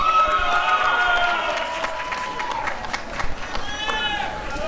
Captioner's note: applause and cheering